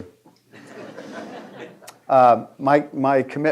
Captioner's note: audience laughing